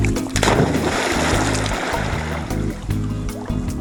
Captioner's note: water splashing